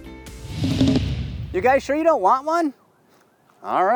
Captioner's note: air whooshing